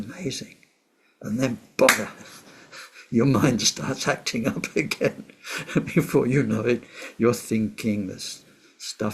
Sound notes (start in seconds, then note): 1.8 clap